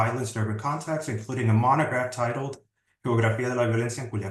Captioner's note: speaking Spanish